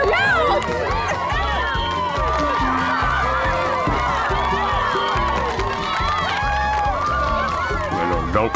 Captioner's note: cheering